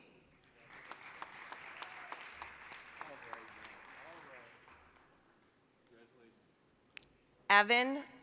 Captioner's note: applause